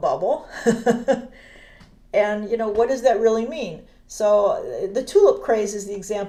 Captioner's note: laughs